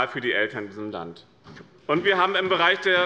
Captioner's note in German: Beifall bei dem BÜNDNIS 90/DIE GRÜNEN und der CDU